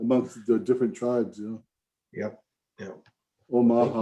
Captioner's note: speaks an indigenous language